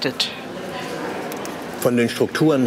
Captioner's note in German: Stimmengewirr